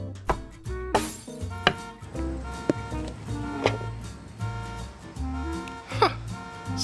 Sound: smack! Bang!; upbeat music; window Shatters; car Alarm

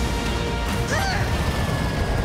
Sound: Lloyd grunts

